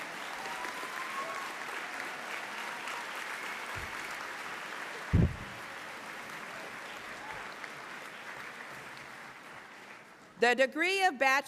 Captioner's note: applause